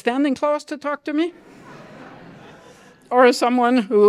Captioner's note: laughter